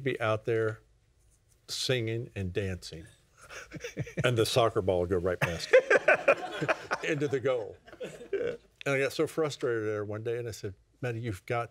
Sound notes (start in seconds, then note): 7.9 laughs